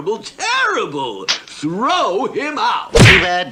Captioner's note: splat!